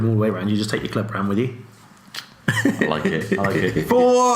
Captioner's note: laughs